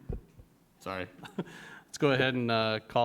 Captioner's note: giggles